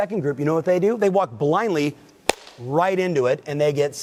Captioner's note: slaps hand